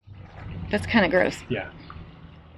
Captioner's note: sloshing